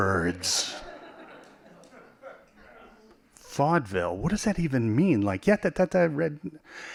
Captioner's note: laughing